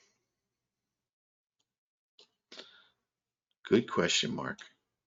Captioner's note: mouse clicking